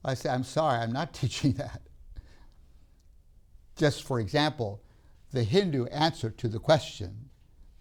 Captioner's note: laughs